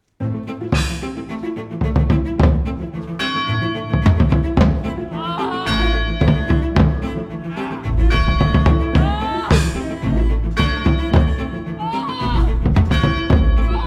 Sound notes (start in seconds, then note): 3.2 church bell rings; 5.2 woman moaning